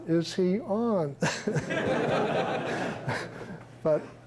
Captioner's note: chuckling